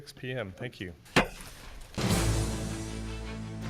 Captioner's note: gavel banging; driving music